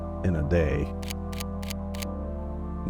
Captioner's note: camera flicks